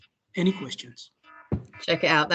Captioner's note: alarm sounds